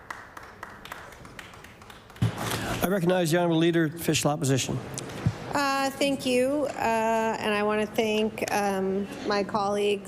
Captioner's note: some Applause